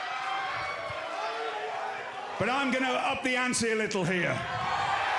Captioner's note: crowd cheering